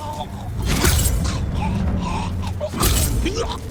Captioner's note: thunder rumbling